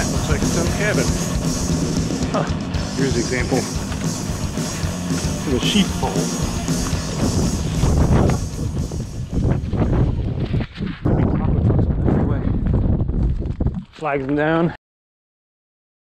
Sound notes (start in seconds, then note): 7.7 wind whooshing; 11.0 wind whooshing over talking